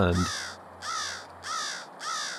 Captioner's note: crows call